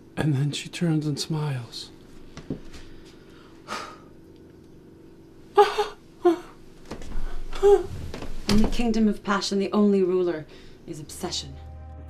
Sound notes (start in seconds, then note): 3.6 blows air swiftly; 5.6 softly whimpers; 8.3 faints heavily